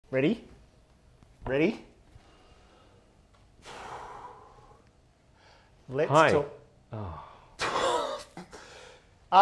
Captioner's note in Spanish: suspiro